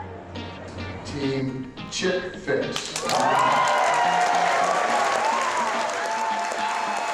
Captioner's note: applause